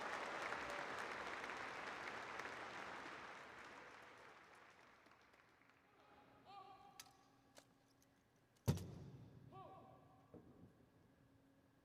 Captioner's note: applause